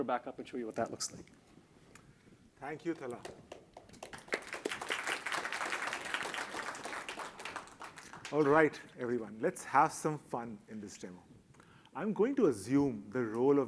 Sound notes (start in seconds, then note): 2.8 applause